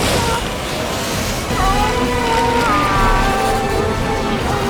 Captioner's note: screaming